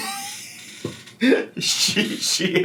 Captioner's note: laughs